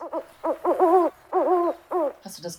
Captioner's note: animal sounds